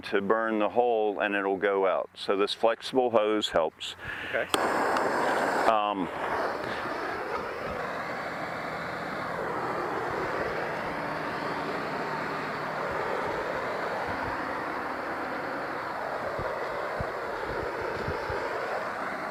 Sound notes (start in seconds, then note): 5.7 propane hissing; 13.7 hissing continues